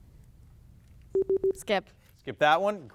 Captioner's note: buzzer beeps